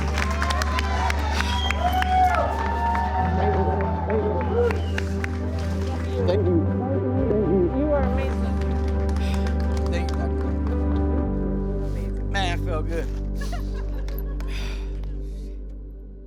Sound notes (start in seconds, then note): 0.0 applause; 14.4 sighs